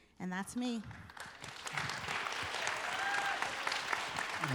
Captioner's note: applause and cheering